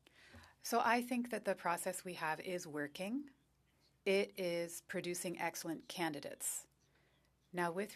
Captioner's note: speaking French